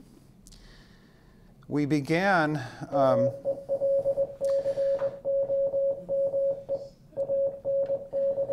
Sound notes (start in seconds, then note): 3.3 morse code beeping